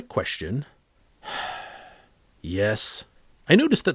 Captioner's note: sighs